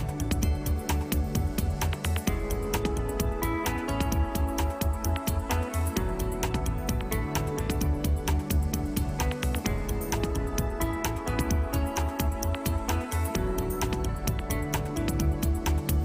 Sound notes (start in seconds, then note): none